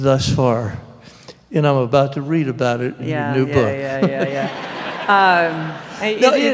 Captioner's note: laughter